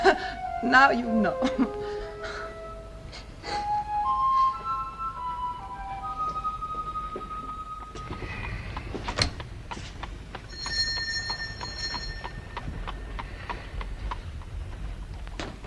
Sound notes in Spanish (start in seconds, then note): 10.4 Suena la campana